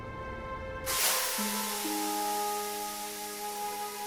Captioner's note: somber music; steam hissing